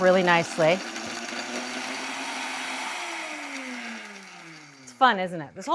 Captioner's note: blender whirring